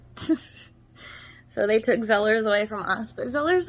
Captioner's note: giggles